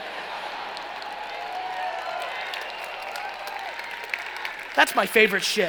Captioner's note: cheering and applauding